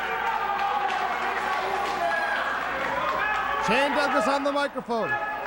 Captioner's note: crowd cheering